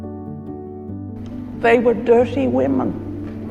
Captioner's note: voiceover